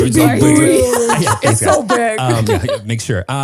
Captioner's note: all laugh